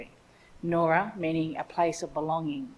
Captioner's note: speaks in Ngunnawal language